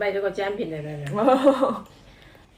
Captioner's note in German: verlegenes Lachen